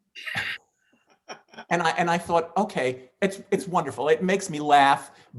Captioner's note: laughing